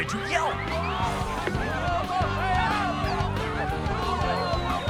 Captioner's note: yelling for help; clucking excitedly